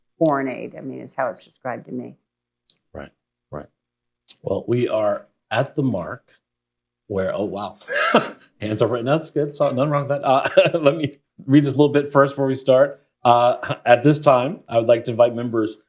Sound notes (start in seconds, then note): 7.5 laughs